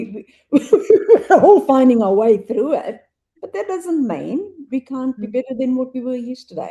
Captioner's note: laughs